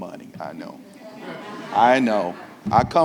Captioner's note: audience laughing